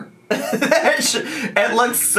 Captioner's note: laughing